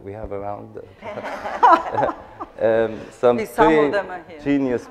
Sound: laughter

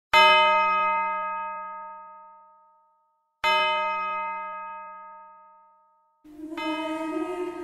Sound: church bells

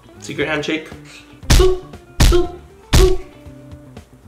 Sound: smacking of the handshake

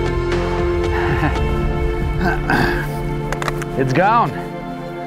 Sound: laughs

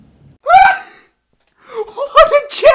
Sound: laughs

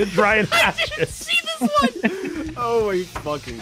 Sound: laughs

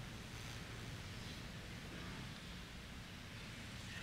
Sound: none

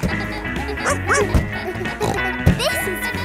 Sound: barks; snorts

